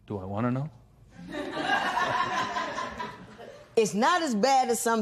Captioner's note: laughter